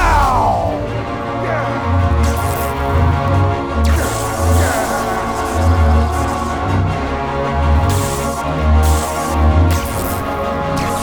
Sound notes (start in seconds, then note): 2.1 grunting; 2.1 light sabers hissing